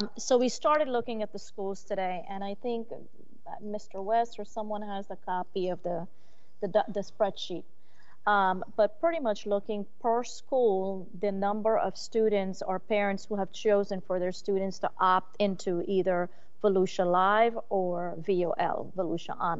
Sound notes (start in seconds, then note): none